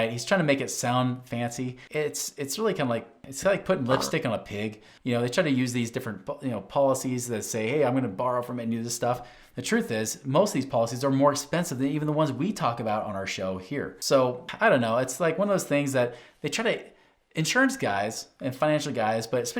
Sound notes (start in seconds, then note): 3.8 pig oinks